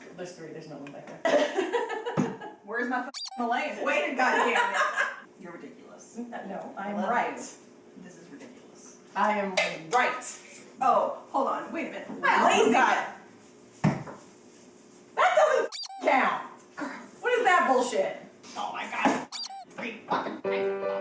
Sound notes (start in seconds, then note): 1.3 giggling; 3.1 squeak; 4.1 laughing; 15.7 squeak; 19.3 squeak; 20.7 upbeat music